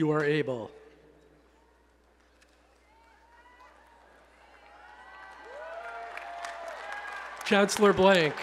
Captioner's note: applause and Cheering